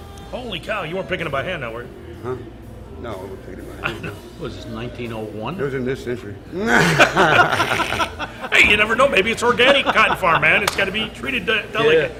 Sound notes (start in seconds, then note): 3.8 laughing; 6.5 laughs; 6.5 laughing